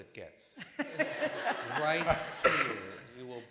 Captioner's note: laughter